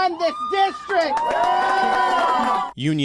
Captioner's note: cheering and applause